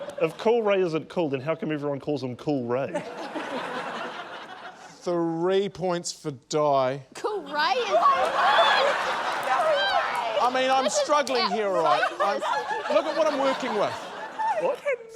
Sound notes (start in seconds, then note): 2.9 laughter; 11.5 laughter